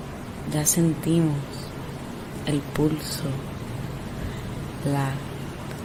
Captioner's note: speaking foreign language